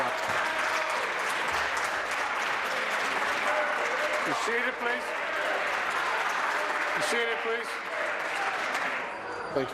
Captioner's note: applause